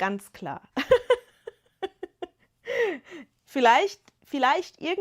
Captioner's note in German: gelächter